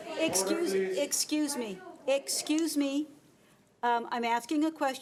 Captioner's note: overlapping chattering